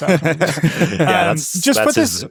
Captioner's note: group laughs